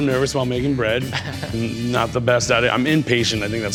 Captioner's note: laughs